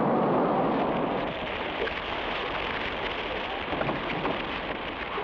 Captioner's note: flames crackle